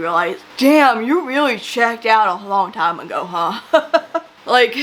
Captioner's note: laughs